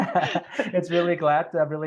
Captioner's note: laughs